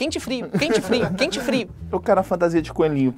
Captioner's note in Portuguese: risadas